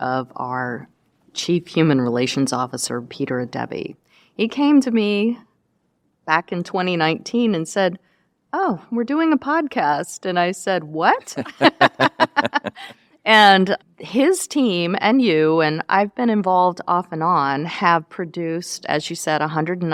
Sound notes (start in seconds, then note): 11.3 laughter